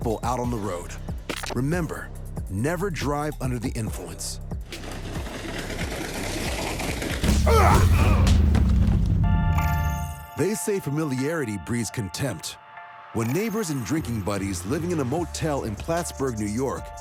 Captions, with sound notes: out on the road. Remember, never drive under the influence. [tire flapping] [punching, grunting] They say familiarity breeds contempt. When neighbors and drinking buddies living in a motel in Plattsburgh, New York,